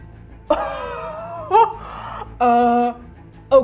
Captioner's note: gasping, laughing